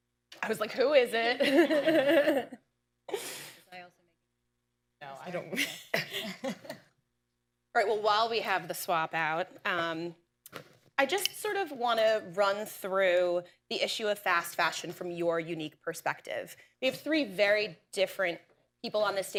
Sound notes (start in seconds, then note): 5.5 laughter